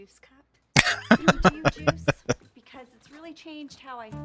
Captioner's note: laughing